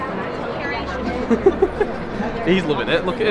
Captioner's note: laughter